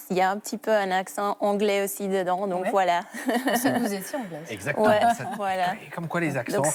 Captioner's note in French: rires